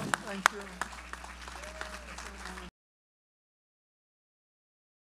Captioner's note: audience applauds